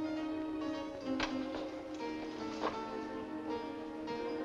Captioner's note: balcony window opens